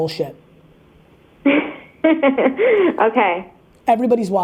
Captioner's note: laughs